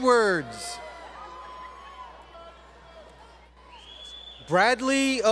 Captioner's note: crowd Cheering